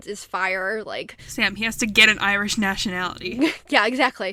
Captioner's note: sarcastically